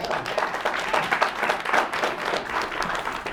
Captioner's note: audience applauds